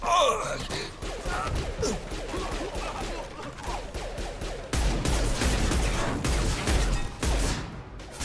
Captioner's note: bang